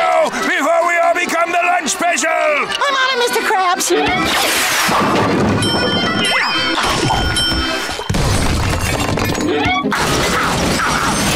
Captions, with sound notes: before we all become the lunch special! I'm on it, Mr. Krabs! [dinging] [grunting, thudding]